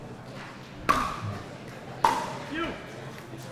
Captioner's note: ball clacking